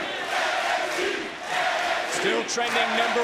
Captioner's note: crowd chants "nxt"